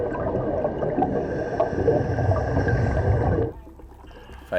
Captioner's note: breathing